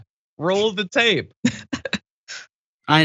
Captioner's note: laugh